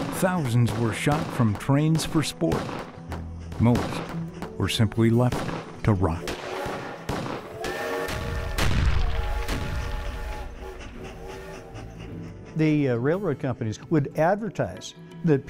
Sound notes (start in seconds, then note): 6.2 gunshots; 7.6 train engine